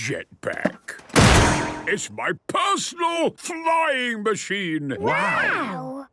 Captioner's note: clangs